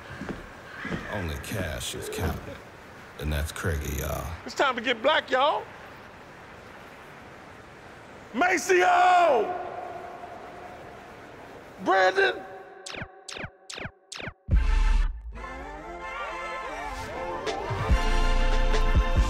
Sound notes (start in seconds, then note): 0.0 bird cawing; 12.8 beeping; 14.5 upbeat theme playing